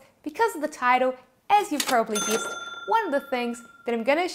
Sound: cash register bell tinkling

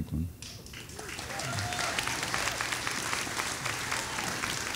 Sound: audience applauding

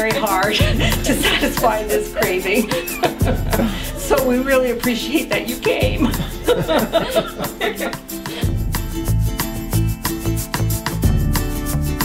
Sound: laughing

